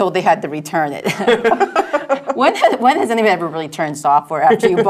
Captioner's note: laugh